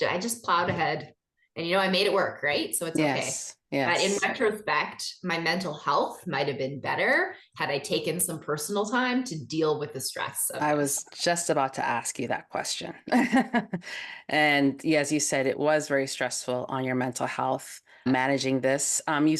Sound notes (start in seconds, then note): 13.9 laughs